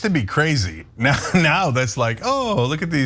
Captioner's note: laugh